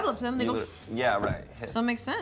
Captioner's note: imitates sizzling